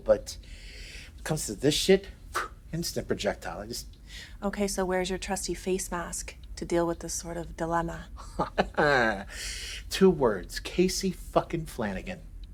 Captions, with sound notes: but when it comes to this shit, instant projectile. I just- - Okay, so where's your trusty face mask to deal with this sort of dilemma? (Benny chuckles) - Two words. Casey fuckin' Flanagan.